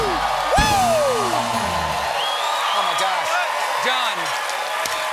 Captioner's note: cheers and applause